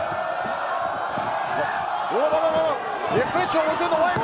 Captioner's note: fans chanting